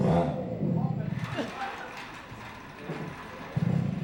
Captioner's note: engine revving; laughter and applause